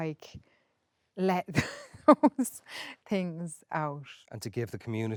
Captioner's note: laughs